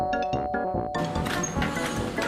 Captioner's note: ding donggggg